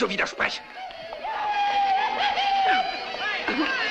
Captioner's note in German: Geschrei und Gebrüll